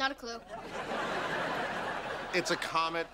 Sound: laughing

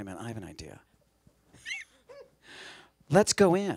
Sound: laughs

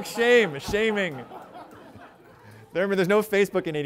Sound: laughter

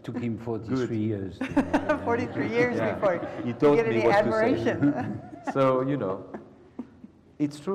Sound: laugh

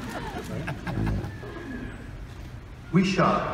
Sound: audience laughing

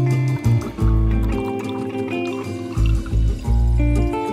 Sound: coffee drips

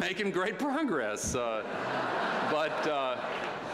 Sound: laughter

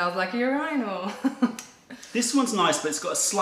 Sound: laughter

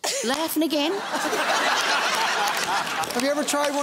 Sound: laughing

